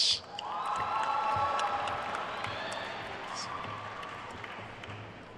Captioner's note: attendees cheering and applauding